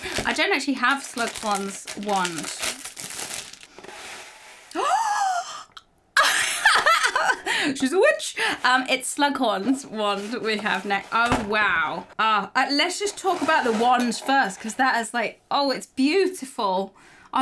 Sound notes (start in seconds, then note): 4.8 exclaims; 6.2 laughs